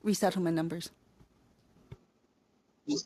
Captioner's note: speaking French